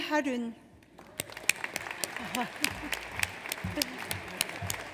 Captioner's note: audience applauds